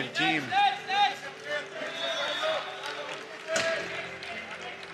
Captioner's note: team players calling out, whistle